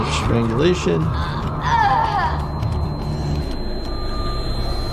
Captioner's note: person moaning